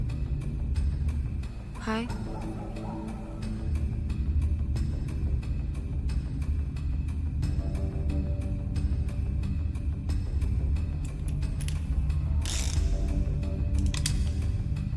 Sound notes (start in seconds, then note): 3.4 discomforting rumble